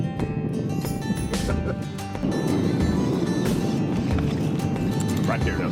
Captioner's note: fisherman laughs